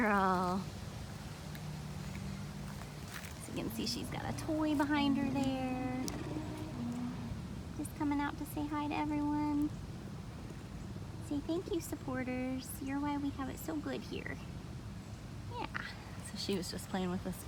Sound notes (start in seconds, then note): 5.7 purring